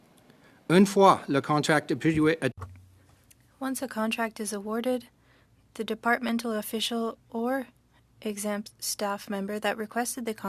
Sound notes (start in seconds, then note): 4.4 speaking French